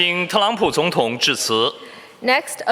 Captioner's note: speaking Mandarin Chinese